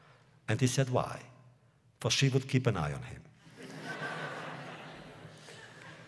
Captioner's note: laughter